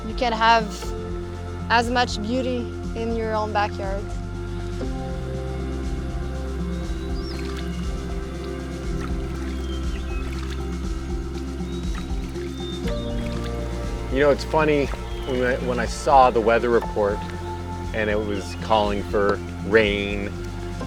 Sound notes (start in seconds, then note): 3.8 gentle water splashes; 3.8 peaceful music